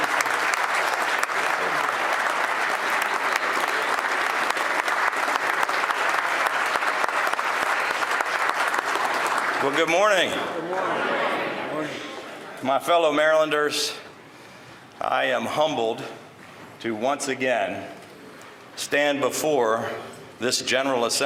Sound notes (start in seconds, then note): 10.1 applause